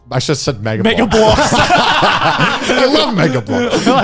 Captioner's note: laughs